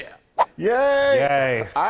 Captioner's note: swoosh